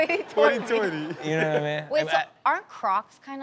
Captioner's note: audience laughs